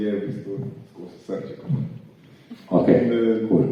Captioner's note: heartbeat